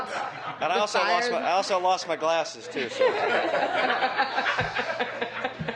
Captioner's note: laughter